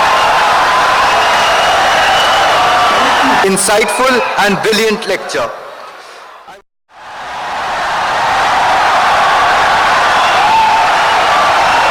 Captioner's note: wild applause and cheering for 17 seconds